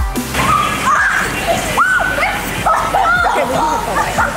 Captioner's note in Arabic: يصرخ الناس